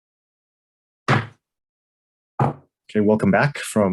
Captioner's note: gavel bangs